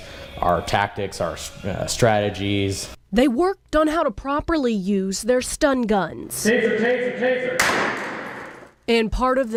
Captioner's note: stun gun deploys